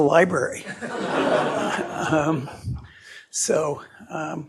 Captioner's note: laughter